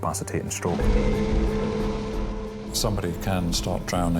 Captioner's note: suspenseful music; lifeboat engine whirring